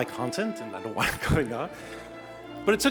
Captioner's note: chuckles